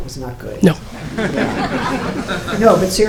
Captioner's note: audience laughing